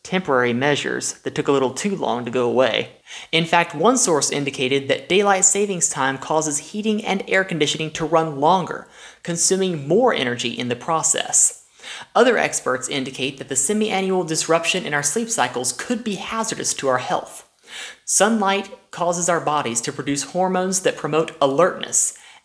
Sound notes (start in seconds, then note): 3.3 normal voice